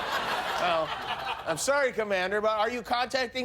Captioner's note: laughter